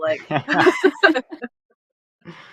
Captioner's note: laughter